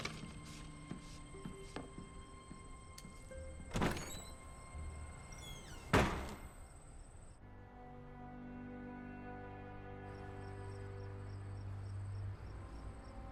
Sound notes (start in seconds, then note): 5.2 door opens and closes; 9.8 soft music